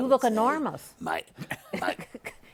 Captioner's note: laughs